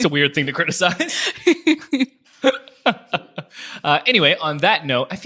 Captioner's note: both laugh